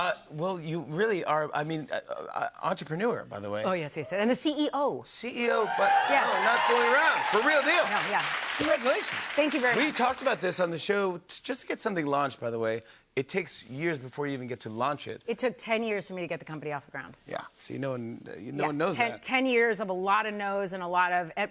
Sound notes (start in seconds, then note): 5.4 cheers and applause